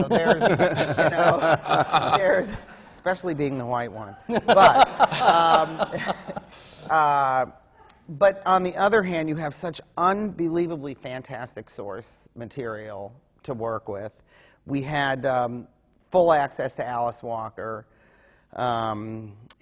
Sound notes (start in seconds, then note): 0.0 laughter from the panel; 4.2 laughter